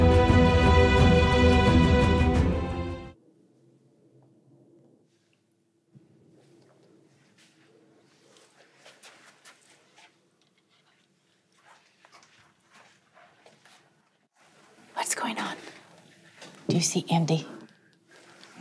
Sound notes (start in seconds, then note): 2.1 music fades; 3.1 silence